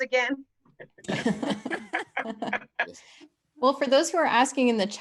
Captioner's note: all laugh